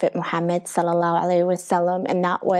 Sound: speaking foreign language

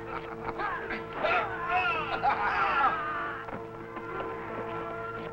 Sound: troops yelling

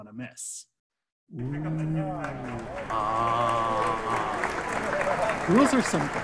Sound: applause

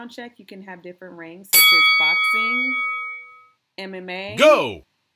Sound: bell ring

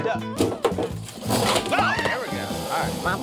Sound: growling; clattering; screams

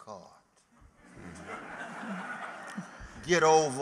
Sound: laughter

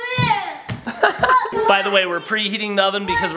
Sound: laughing

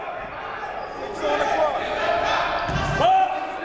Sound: shouting

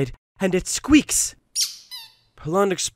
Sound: Duck Squeaks

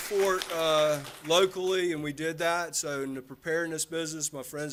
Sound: applause

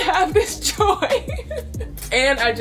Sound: chuckles

